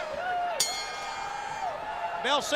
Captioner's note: bell ringing